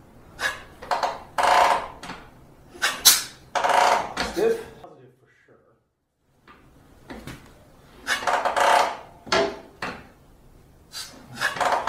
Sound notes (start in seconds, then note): 0.2 puff of air; 0.8 loud ratcheting noise; 2.7 puff of air; 3.5 loud ratcheting noise; 7.8 puff of air; 8.1 loud ratcheting noise